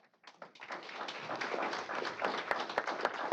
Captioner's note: applause